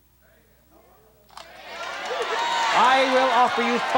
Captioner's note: audience shouting